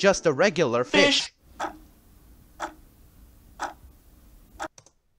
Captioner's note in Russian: тиканье часов